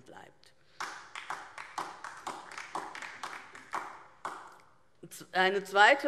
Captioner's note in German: Beifall DIE LINKE